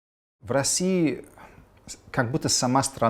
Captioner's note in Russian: говорит с акцентом